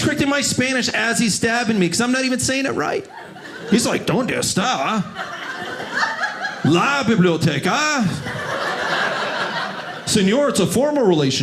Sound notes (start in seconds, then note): 4.9 audience laughing; 8.0 audience laughing